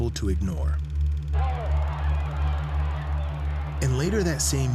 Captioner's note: crowd shouting